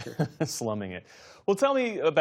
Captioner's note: laughter